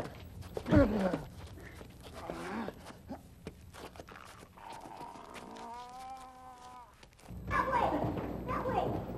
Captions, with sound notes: [comical grunting] That way, that way!